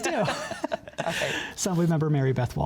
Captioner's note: laughter